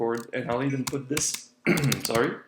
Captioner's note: coughs